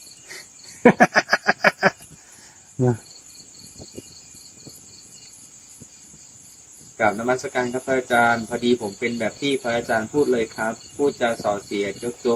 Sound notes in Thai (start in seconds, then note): 0.7 เสียงหัวเราะ